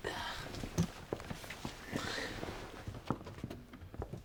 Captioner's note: Jess sighs